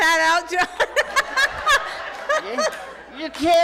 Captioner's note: laughs loudly